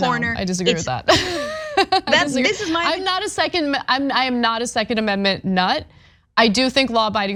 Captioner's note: laugh